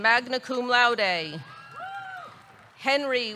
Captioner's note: audience cheering; audience clapping